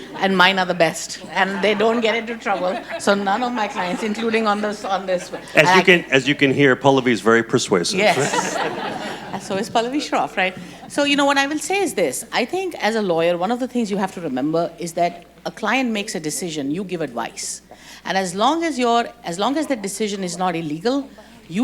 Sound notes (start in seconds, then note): 0.0 group laughing; 7.8 group laughing